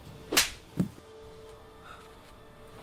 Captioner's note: hand slaps; phone thuds; Louise gasps